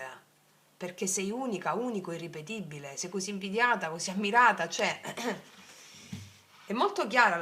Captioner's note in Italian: schiarire la voce